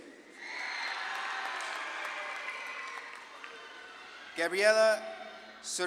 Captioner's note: audience claps and cheers